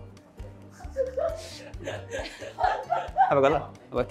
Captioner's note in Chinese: 全場恥笑